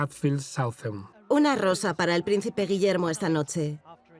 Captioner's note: voiceover